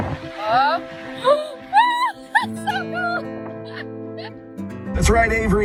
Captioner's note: heartfelt music; exclaims; radio Announcer